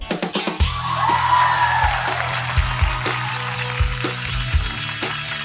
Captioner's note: applause